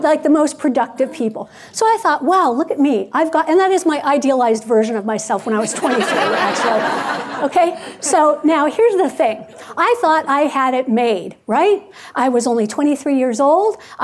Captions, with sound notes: You sound like the most productive people. So I thought, "Wow, look at me, I've got." And that is my idealized version of myself (audience laughing) when I was 23 actually. So now here's the thing. I thought I had it made, right? I was only 23 years old.